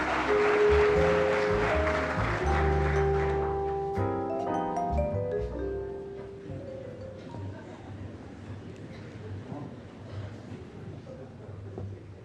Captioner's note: applause; audience laughs